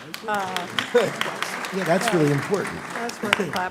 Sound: applause

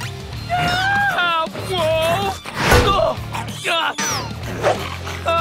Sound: groaning

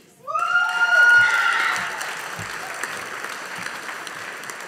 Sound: audience applauding

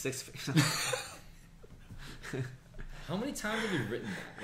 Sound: laughs

